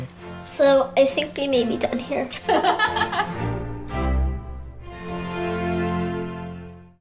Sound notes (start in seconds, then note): 2.4 laughing off camera; 3.7 smooth classical music